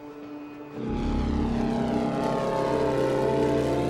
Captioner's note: plane whooshing